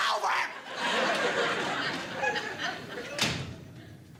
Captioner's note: audience laughing